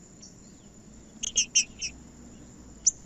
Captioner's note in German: trinca ferro cantando